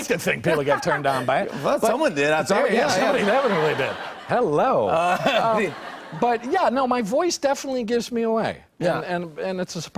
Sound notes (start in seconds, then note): 2.8 laughter